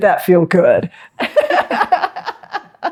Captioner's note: laughs